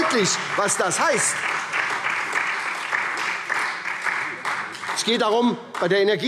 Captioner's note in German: Beifall